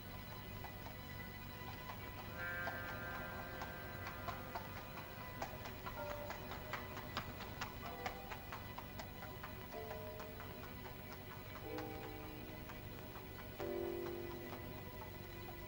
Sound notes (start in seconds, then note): 0.0 soft tense music; 1.6 hooves trotting softly; 1.6 soft tense music; 15.4 soft tense music